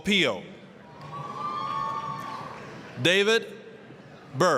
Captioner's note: applause, cheering